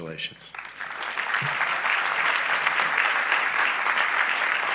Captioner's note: crowd applauding